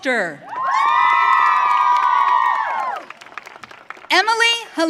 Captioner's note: audience cheering